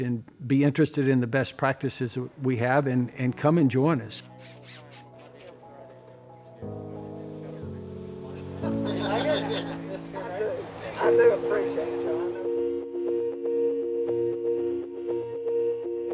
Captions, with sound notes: and be interested in the best practices we have and come and join us. (instrumental music) (crowd chattering)